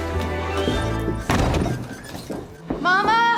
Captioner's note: door slams